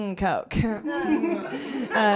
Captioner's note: laughter